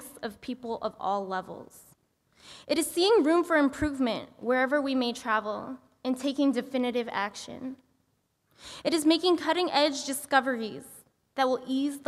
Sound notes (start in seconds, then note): none